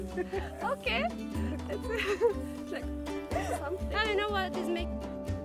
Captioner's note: laughs; giggles